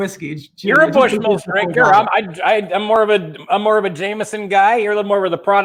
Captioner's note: murmurs